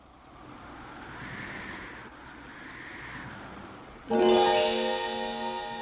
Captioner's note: wind whistling